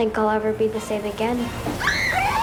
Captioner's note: screaming